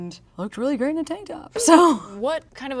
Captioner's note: laughs